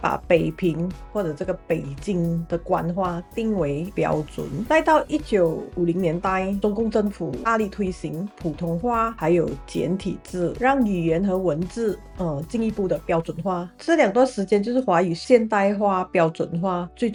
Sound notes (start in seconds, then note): 9.1 Mandarin